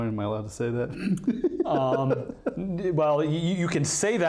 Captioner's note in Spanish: hombre riéndose